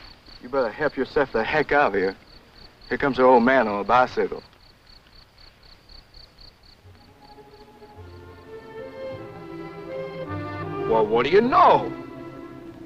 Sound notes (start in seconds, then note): 4.6 crickets chirping; 8.4 vintage music